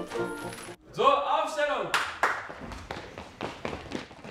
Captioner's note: hands clap